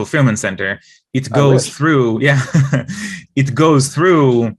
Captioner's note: laughs